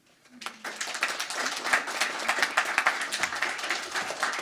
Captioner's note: crowd applauding